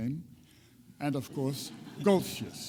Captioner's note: audience chuckles